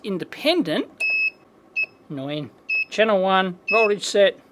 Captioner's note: beeps; beeps